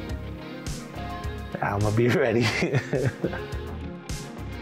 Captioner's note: laughter